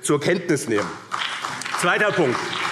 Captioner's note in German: Beifall BÜNDNIS 90/DIE GRÜNEN und CDU